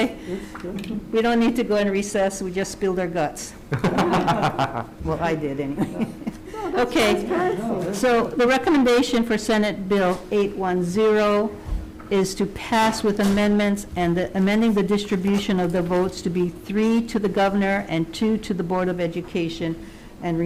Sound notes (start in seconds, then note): 3.7 Senators laughing; 6.3 laughs